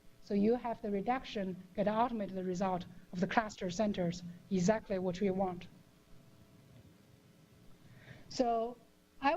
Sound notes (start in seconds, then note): 5.8 pause